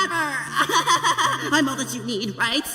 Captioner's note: laughing